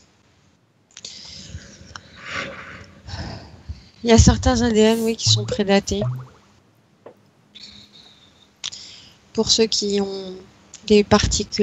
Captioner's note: breath